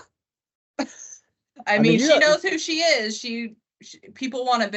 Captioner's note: scoffs